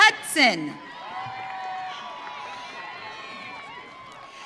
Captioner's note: audience cheering